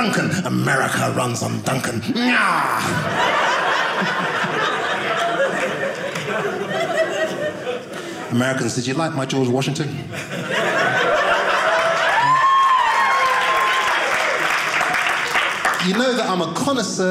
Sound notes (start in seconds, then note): 2.8 audience laughing; 9.9 audience laughing; 12.3 audience cheering